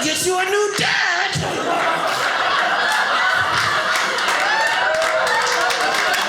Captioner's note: audience laughing